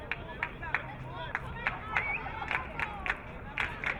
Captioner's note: crowd clapping